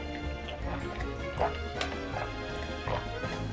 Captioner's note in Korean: 물 꼴깍꼴깍